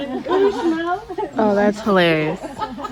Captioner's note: laughter